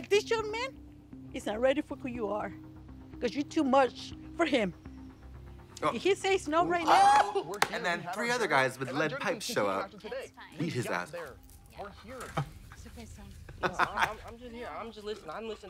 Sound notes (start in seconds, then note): 7.1 Trixie crows; 13.7 Katya chuckles